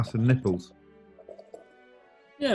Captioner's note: pours drink